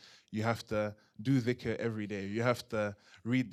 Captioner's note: non-english